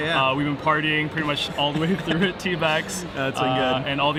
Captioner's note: both laughing